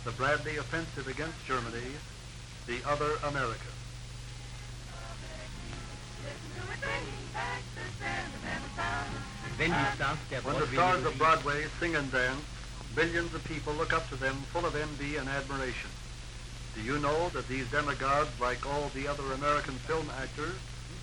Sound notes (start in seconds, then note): 9.4 speaking in German